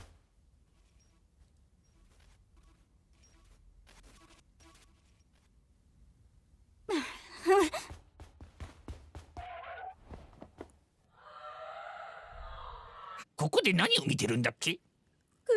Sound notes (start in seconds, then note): 6.8 groans, exclaims softly